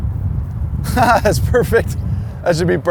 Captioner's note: laughs